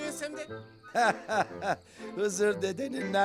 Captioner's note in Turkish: Gülme sesi